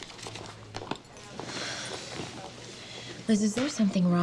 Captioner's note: sighs